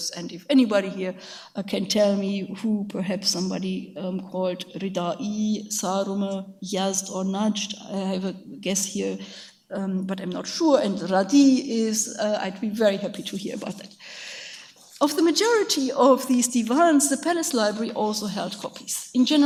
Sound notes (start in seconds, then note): 4.7 speaks in a foreign language; 11.0 speaks in a foreign language